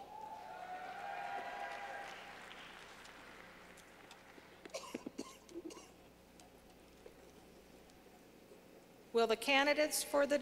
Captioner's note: clapping